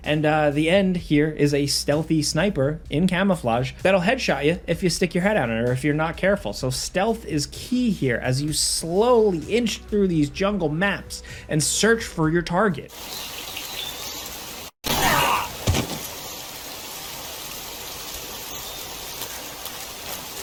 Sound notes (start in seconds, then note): 14.7 gun firing; 14.9 Snake grunts